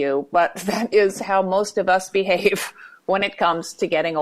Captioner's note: chuckles